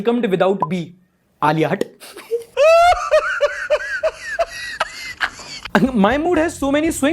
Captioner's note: laughter